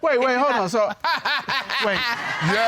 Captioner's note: laughs